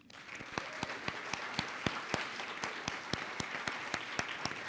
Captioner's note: audience applauding